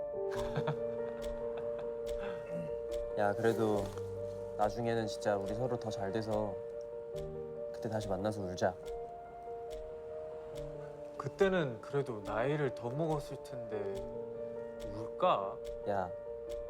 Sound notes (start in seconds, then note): 0.3 chuckles; 2.2 clears throat